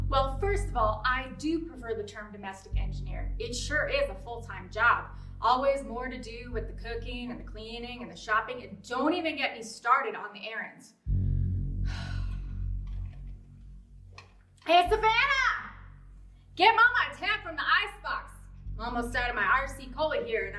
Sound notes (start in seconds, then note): 0.0 ominous music; 11.8 sighs